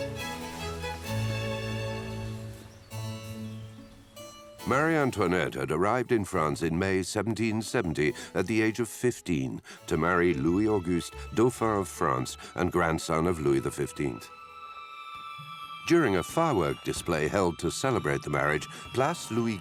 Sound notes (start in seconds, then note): 15.2 fireworks whistling